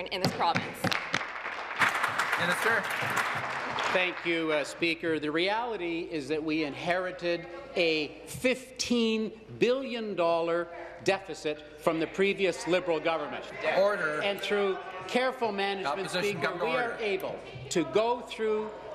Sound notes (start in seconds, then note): 4.9 applause